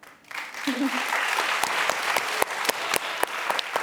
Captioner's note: clapping